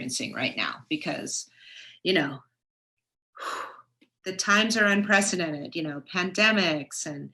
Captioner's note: sighs